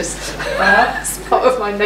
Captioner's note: laughs